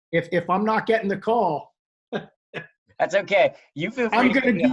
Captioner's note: chuckles